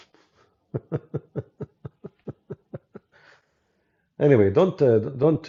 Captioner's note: Ketawa